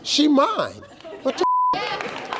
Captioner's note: beep